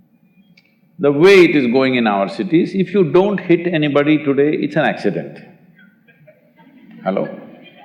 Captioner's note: few laugh